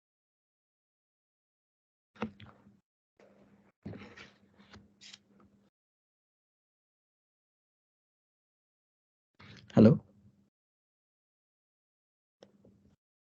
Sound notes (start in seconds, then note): 2.1 silence